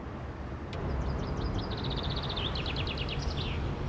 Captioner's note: birds chirping